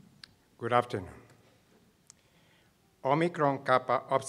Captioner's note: voiceover